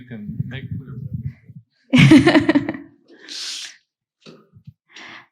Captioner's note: laughs